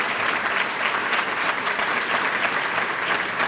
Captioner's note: applause